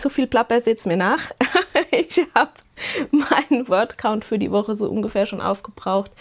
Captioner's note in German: gelächter